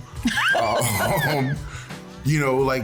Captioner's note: laughing